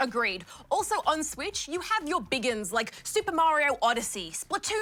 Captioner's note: none